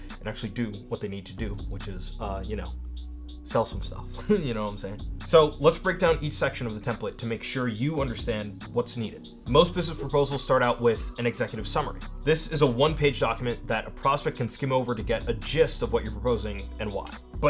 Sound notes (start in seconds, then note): 4.2 chuckles